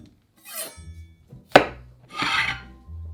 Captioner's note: chop